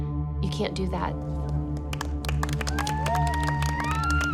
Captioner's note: cheers, applause